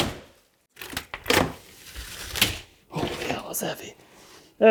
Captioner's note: wall cracking